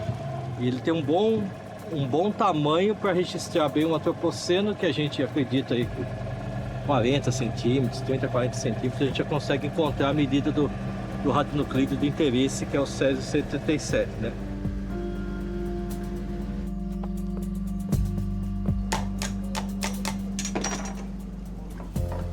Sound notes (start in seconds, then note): 18.9 barrel tapping sound